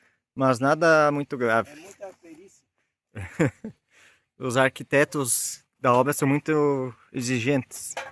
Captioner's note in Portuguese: risadas